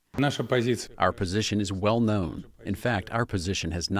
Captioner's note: through translator